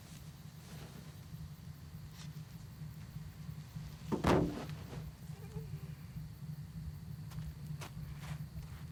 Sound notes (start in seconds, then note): 4.8 soft groaning